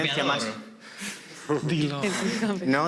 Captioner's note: laughs